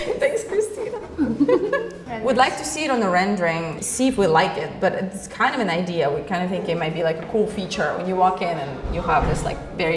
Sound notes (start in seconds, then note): 0.0 sighs; 0.0 laughing